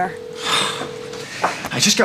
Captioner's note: sighing